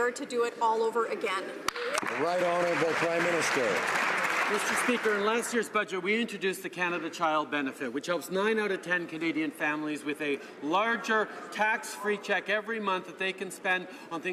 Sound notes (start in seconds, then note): 4.5 some Applause